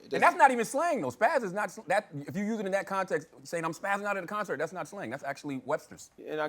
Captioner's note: none